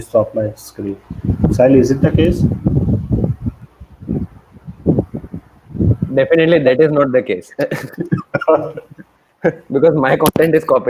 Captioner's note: laughs